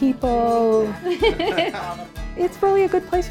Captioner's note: laughs